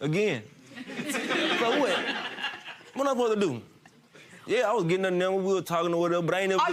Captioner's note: audience laughing